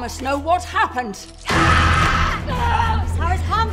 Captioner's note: screaming